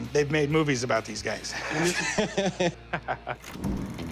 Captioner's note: laughing